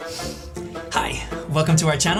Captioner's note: record scratch